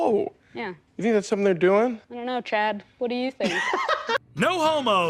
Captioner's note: laughs